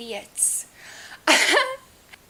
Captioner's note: laughs